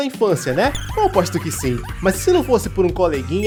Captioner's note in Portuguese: risadas